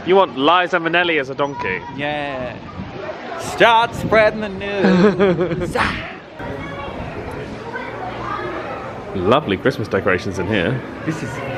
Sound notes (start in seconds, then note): 4.7 laughing; 7.4 indistinct chatters